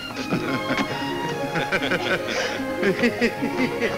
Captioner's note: men chuckle